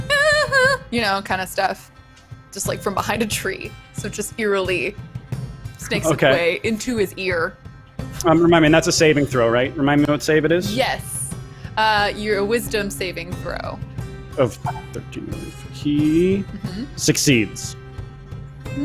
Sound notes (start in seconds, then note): 14.8 speaking faintly